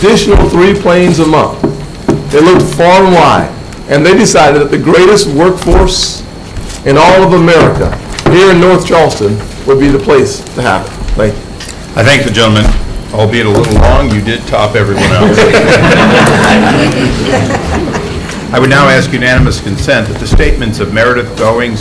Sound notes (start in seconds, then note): 16.9 laughter